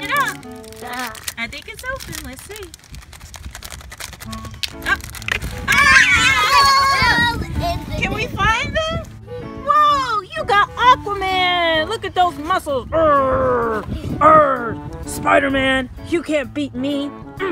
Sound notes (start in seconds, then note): 3.7 plastic rattling; 5.6 yelling excitedly